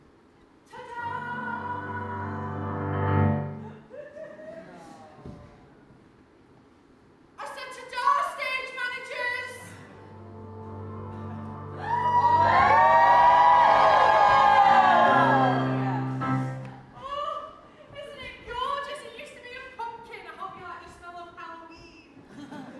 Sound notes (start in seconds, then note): 1.8 piano flourish; 9.9 piano flourish; 10.0 audience cheers